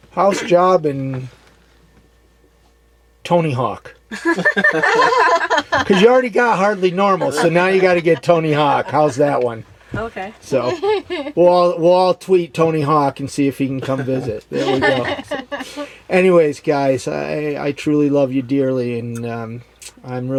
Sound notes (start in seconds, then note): 4.2 laughs; 13.8 laughs